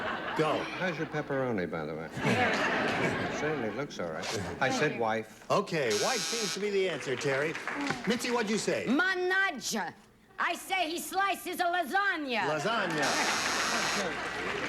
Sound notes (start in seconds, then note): 8.5 speaks italian